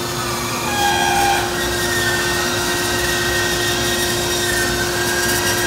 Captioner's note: machine continues whirring